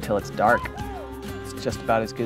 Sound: cheering

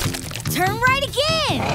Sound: none

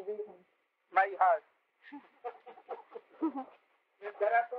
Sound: laughter

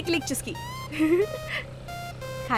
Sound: giggling

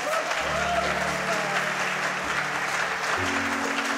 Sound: audience clapping

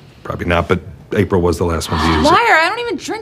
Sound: Amity gasps

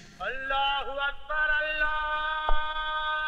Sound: none

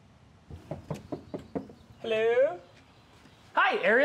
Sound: knocking

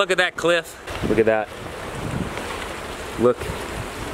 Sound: wind and ocean

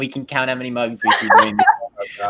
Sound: laughs

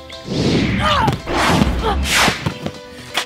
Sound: grunts

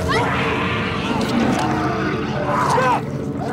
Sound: shrieks; growls

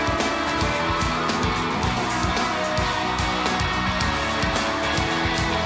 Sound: cheers and applause

